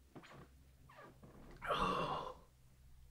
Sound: Barry groans

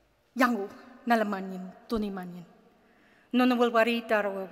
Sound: speaks in Ngunnawal

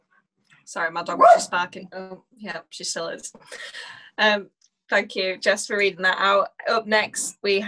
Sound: bark

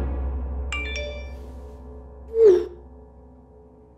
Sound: text alert

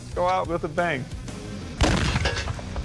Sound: explosion

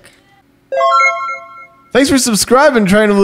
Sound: electronic chime

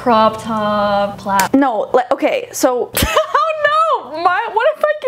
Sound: laughing

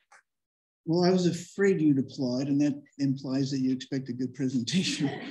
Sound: applause; laughter

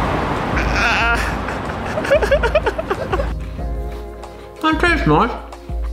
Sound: laughing

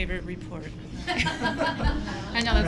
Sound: laughter

